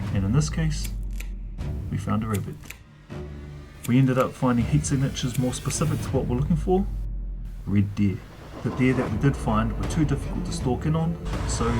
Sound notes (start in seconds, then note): none